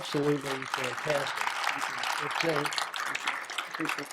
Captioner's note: applause